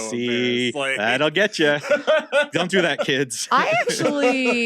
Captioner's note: laughs